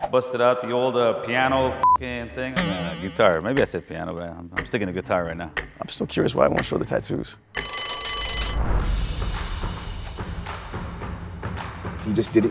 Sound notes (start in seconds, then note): 7.6 bell rings; 8.9 upbeat music